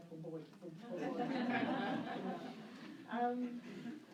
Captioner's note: laughter